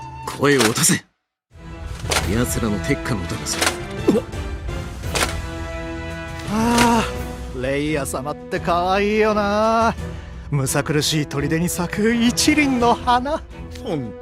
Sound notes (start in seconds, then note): 7.4 sigh